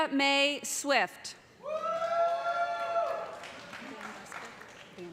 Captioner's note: cheers and applause